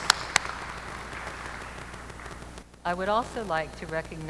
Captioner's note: applause